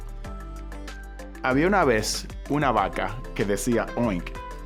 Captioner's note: speaking Spanish